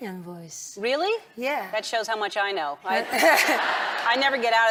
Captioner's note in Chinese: 笑聲